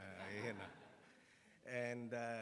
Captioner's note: attendees laughs